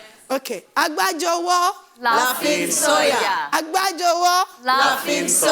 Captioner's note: speaking in foreign language